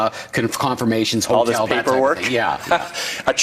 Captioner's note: laughing